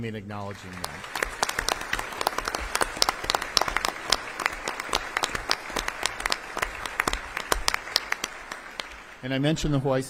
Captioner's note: applause